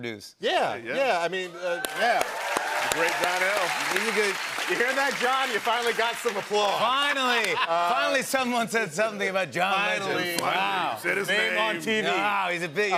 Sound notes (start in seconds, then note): 1.6 cheers and applause